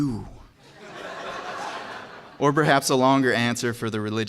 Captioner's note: laugh